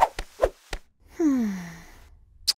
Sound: Naomi sighs

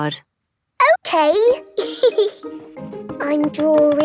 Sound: giggles

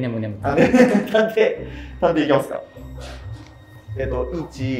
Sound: laughing

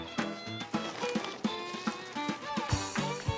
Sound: rummaging

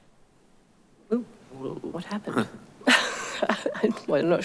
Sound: laughing

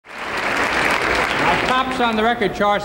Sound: audience applauding

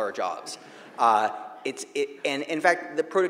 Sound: audience laughing

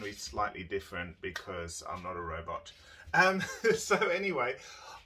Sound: chuckles

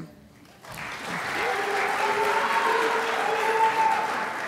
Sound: crowd applauds

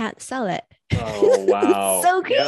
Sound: laughs

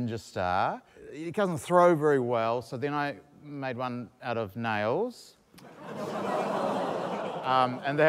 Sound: audience exclaims

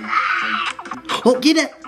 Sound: gaming sounds

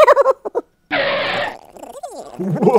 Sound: skid

